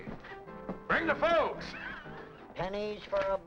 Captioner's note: laughs